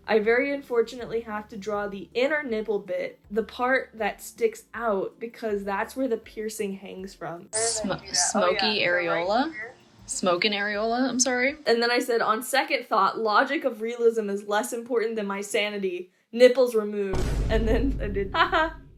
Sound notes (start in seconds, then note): 17.1 boom